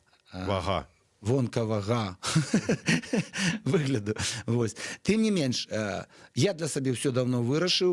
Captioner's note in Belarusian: смех